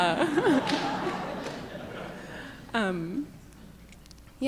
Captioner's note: audience laughing